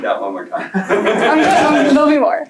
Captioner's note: laughter